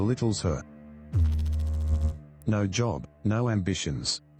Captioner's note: electrical noise